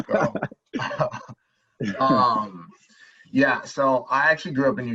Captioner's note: laughing